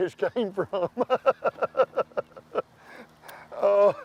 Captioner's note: laughs